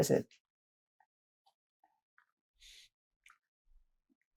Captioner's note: pauses 6 seconds